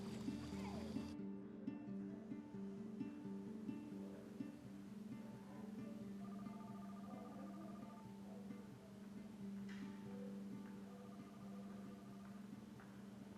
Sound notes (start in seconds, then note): 2.1 phone ringing